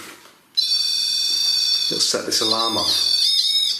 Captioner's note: buzzing